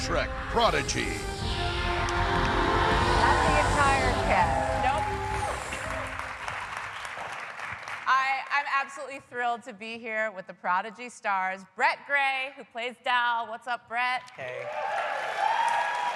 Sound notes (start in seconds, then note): 4.1 cheers and applause